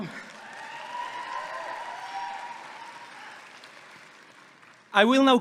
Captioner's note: audience clapping and cheering